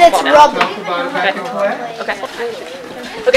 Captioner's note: chatter